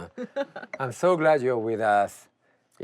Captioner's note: laughs